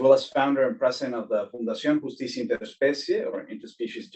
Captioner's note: speaking foreign language